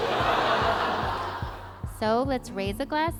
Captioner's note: laughter